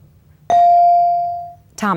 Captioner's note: bell dings